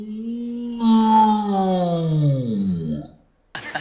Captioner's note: read loudly in slow motion; laughs